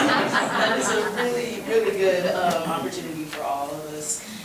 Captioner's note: board members laughing